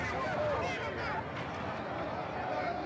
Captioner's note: shouting